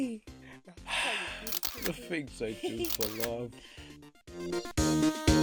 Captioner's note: sighs